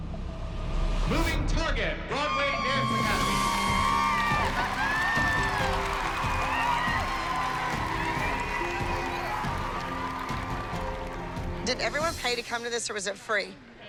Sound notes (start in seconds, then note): 2.5 cheering